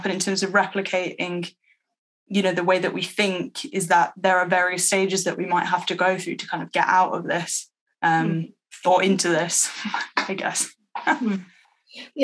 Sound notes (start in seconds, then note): 10.7 laughs